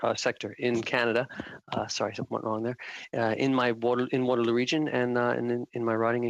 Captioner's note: speaking French